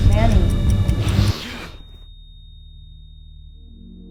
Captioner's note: clock ticking